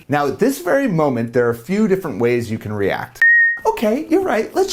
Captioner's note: beep